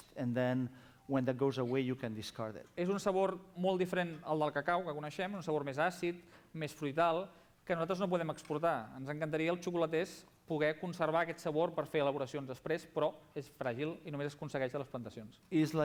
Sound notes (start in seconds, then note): 6.9 non-english speech